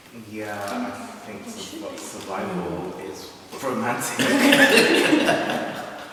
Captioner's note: laughter